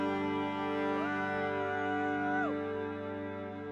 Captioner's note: is howling